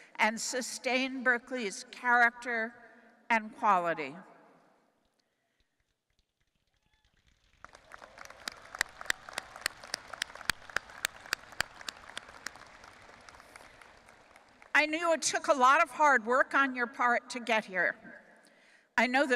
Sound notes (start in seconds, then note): 6.8 audience applauding